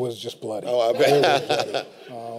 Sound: laughs

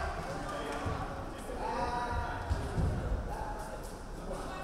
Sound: crowd chattering

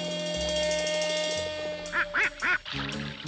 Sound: quacks

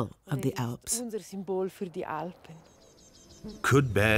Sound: speaking in foreign language

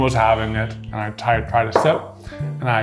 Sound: can thudding

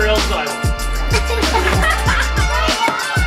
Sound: crowd laughs; giggles; kids cheering

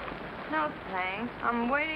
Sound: groggily

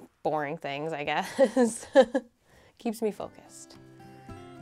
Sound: laughing

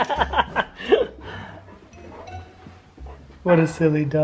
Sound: laughing

